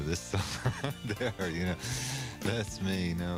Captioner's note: laughs